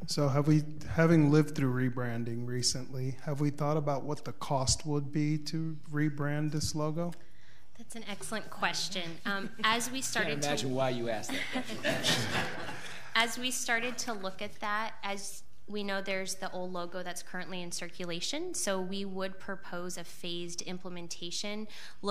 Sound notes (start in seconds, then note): 11.2 audience laughs